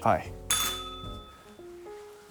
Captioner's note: bell rings